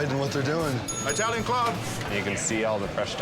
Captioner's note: bell dinging